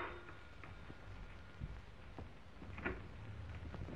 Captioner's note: doorbell ringing